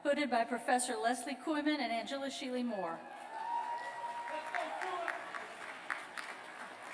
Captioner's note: cheers